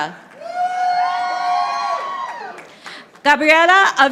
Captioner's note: audience applauding